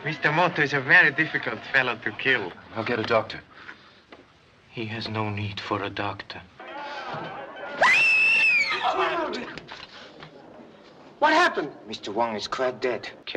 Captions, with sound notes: - Mr. Moto is a very difficult fellow to kill. - I'll get a doctor. - He has no need for a doctor. (woman screaming) - What happened? - Mr. Wong is quite dead.